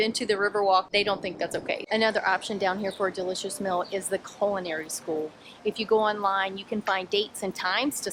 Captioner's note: none